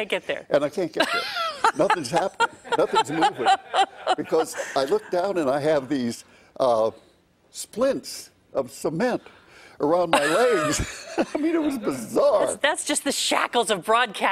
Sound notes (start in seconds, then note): 1.1 laughing